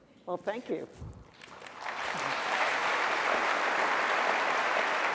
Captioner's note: applause